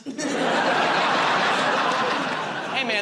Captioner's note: laughter